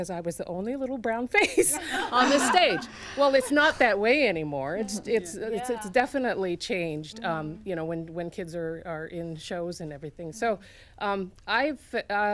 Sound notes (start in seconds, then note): 1.4 laughter